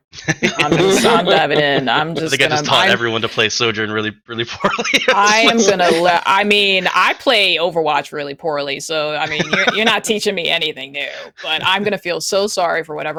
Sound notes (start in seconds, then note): 1.9 laughter; 9.2 laughs